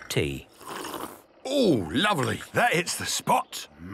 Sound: sipping

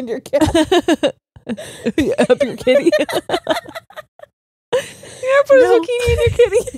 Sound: both laughing

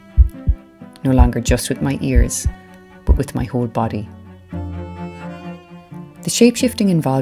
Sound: sound effect over cello music: heartbeat

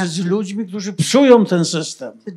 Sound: foreign language

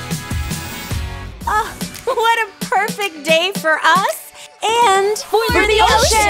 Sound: sighs

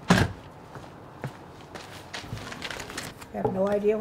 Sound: footsteps on gravel

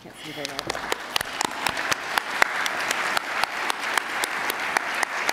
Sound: attendees applauding

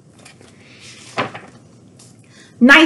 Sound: page shuffles

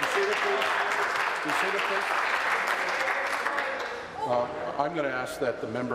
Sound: applause

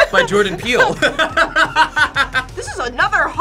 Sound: both laugh

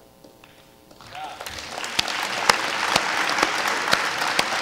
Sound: applause

